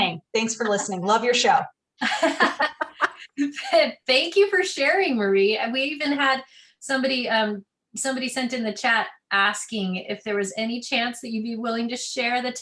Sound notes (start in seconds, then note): 2.0 laughter